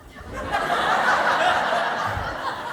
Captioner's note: laughter